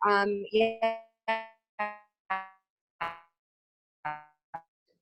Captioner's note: continuous beeping sound